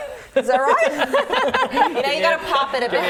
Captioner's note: laughing